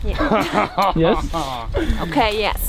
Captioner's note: laughs